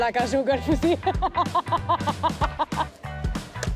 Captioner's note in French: rire